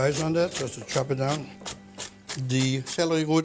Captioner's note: slicing